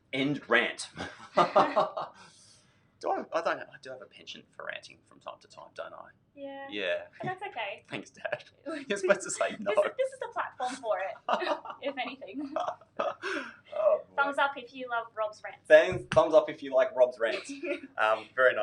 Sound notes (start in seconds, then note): 0.9 laughs; 8.6 laughing; 12.3 laughing